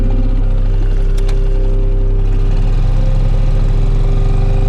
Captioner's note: engine whirs